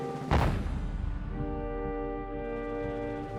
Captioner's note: fires